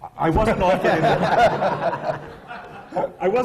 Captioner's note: laughter